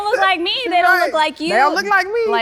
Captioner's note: laughing